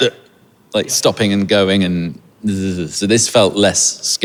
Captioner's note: shudders